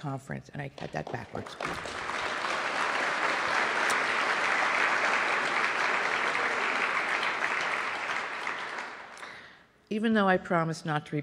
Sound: applause

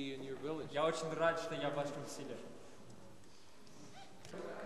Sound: russian speech

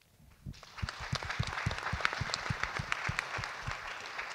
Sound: audience clap

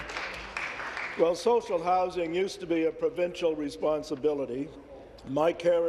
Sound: applause

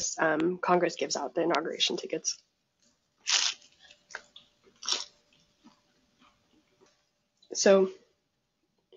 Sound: eating sounds

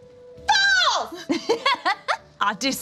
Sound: laughs

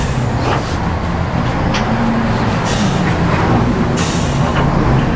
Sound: machinery sputters

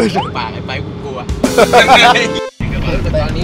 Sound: laughs

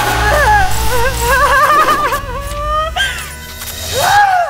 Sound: all laugh hysterically; Sheila moans; Sheila screams

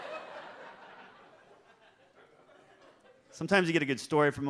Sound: audience laughs

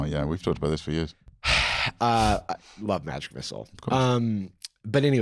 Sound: sighs

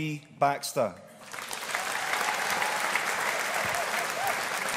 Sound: audience applauding

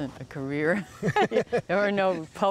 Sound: laughter

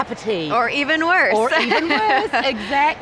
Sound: laughs

